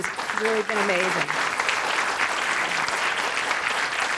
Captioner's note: applause